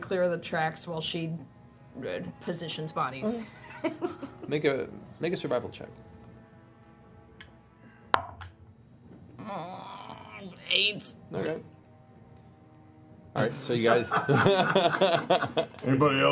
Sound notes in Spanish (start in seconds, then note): 9.7 ruido de disgusto; 13.8 risa